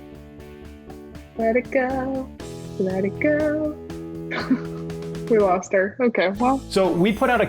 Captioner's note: chuckles